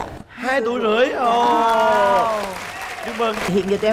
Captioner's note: cheering